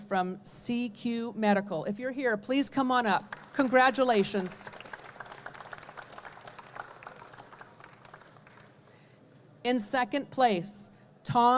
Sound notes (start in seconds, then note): 4.8 audience clapping